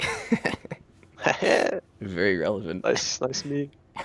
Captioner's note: laughs